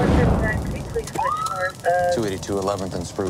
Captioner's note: radadio chahatter